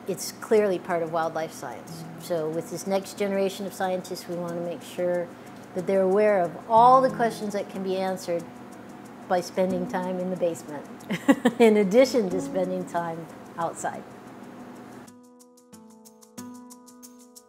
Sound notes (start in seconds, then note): 11.1 laughter